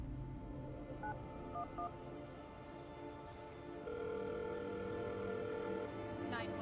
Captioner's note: phone dialing and ringing